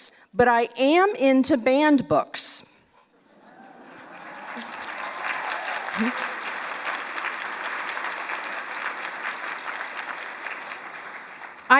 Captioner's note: applause